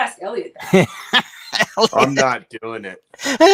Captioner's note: laughs